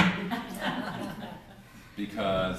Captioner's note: laughter